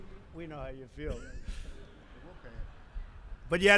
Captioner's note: laughter